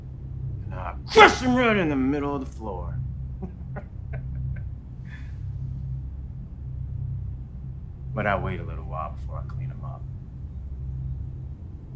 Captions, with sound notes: and I crush 'em right in the middle of the floor. (laughs) But I wait a little while before I clean them up,